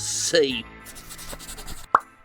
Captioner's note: pencil scratching